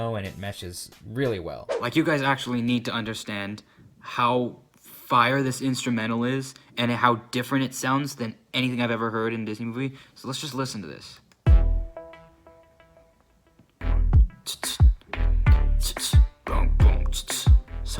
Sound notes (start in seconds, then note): 1.6 whoosh; 11.4 instrumental plays